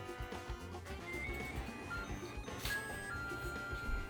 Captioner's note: microwave beep🔔